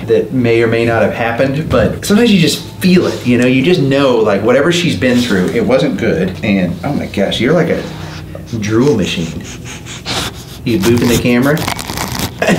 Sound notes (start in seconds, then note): 9.0 sniffing